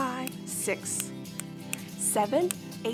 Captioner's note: snapping